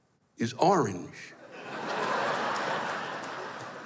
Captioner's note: laughter